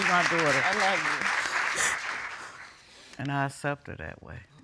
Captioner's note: sobbing